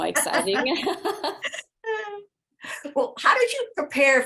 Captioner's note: both laugh